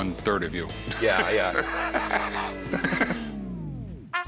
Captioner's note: laughing